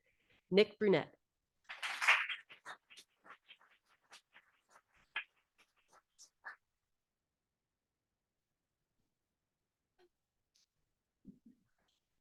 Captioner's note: audience applauding